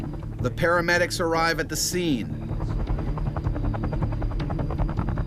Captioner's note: voiceover